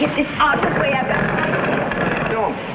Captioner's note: scraping wood drowns out speaker